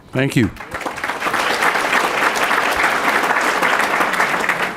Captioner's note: applause